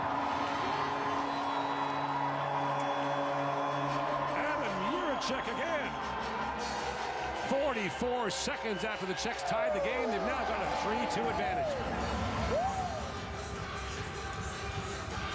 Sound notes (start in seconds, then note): 4.7 crowd Reacts